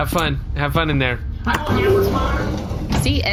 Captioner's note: Pleck closes door